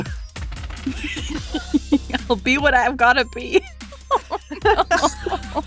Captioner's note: chuckles